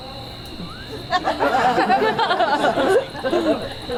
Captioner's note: audience laughs